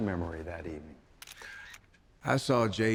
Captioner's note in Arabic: صوت نقرة الكاميرا